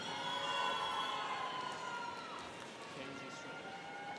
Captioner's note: students cheering